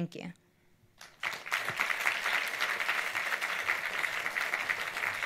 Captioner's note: audience applauds